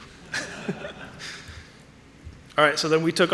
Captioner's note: audience laughing